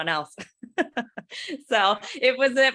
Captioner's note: laughs